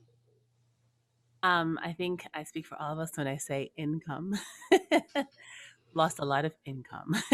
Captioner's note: laughing